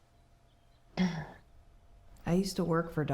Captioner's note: Anne clears throat